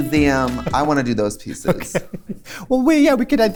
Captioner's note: laughs